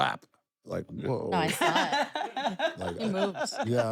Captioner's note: laugh